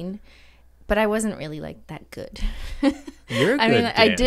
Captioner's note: laughs uncomfortably